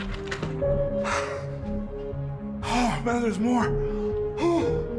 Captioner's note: breathless